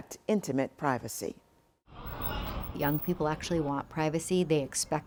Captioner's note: background street noise